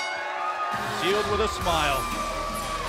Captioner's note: bell; cheers & applause